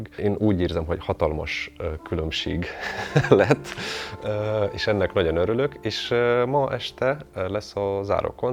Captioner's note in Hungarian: nevetés